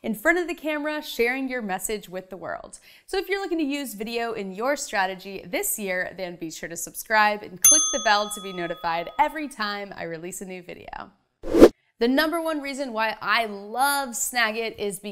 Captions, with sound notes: in front of the camera, sharing your message with the world. So if you're looking to use video in your strategy this year, then be sure to subscribe and click the bell to be notified every time I release a new video. (animation whooshes) The number one reason why I love Snagit is